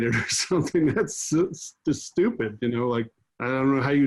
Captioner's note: chuckles